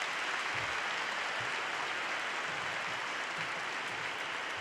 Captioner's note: applause